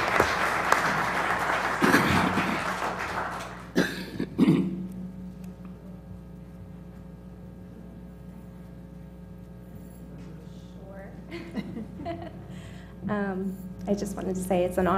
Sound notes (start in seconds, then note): 3.7 cough; 4.4 laugh